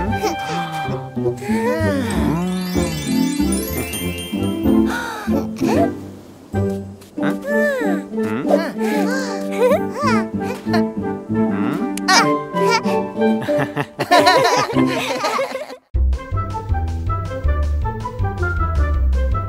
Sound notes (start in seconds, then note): 1.4 sighs admirably; 13.4 laughing